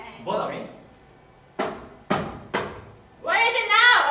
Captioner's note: there is a knock at the door